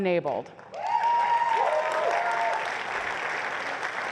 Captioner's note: applause